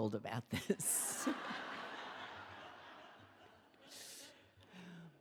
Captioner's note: laughs; audience laughing